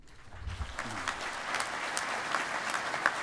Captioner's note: applause